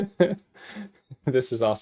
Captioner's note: laughs